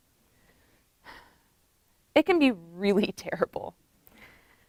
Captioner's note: sigh